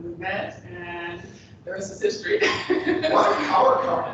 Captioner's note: laughs